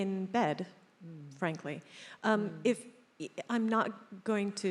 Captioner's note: none